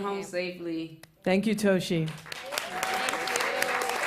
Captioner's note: applause